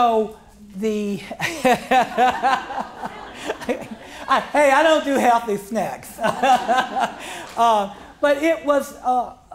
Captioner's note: laughs